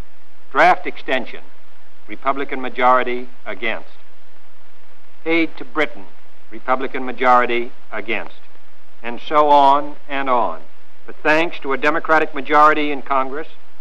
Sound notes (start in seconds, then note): none